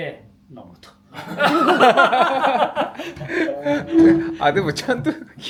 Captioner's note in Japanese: 笑い声